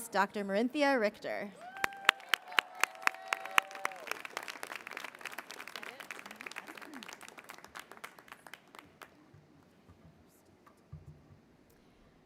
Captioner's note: applause